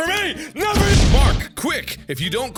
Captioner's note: kaboom